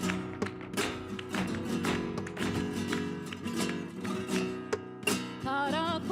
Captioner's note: heels rhythmically clicking; woman singing in a foreign language